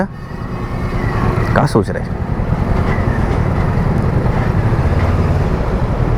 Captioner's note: traffic noise